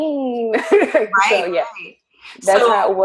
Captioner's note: laughs